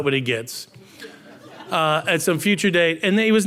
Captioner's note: audience laughing